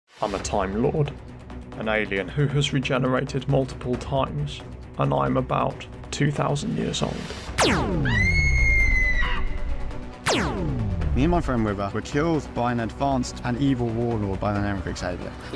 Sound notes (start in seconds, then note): 7.5 laser blast; 8.0 river song screaming; 10.2 laser blast